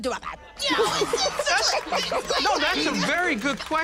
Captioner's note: laughter